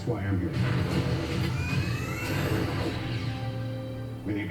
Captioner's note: sounds of Iron Man's power up